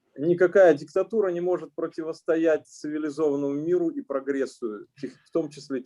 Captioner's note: speaking Russian language